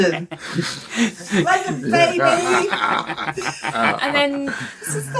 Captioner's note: laughter